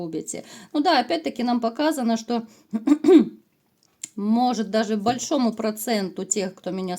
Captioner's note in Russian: откашливается